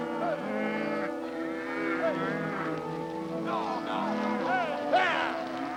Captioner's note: cows mooing; cowboys whistling and shouting